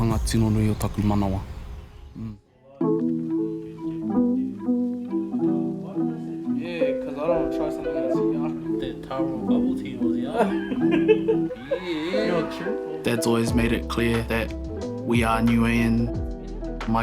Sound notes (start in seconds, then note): 2.9 gentle music; 10.2 laughs